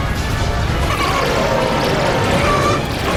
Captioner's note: chickens bawking angrily